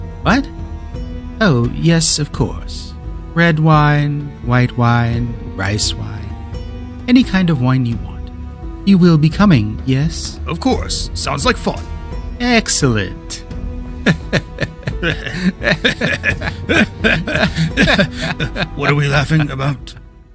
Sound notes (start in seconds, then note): 14.0 Liu Bang also starts laughing; 14.0 begins laughing